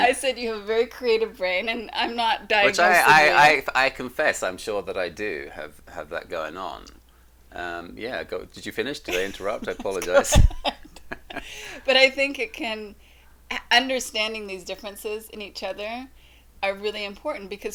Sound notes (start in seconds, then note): 9.1 both laughing